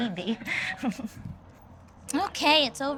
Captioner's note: laughs